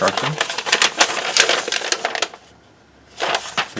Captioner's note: paper crinkling